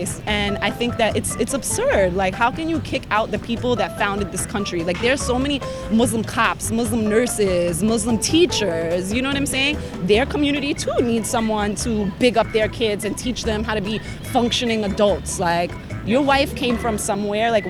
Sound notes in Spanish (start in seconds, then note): none